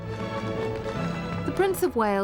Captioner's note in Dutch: publiek applaudisseert